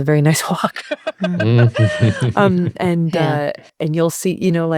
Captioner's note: both laughing